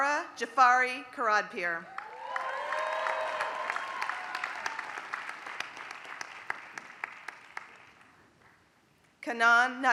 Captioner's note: applause